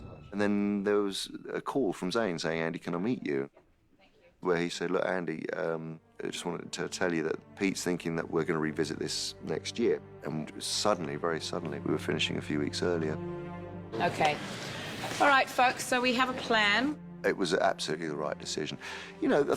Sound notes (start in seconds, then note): none